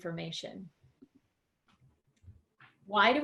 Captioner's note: silence